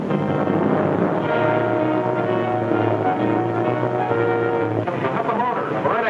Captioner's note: dramatic music; boat hums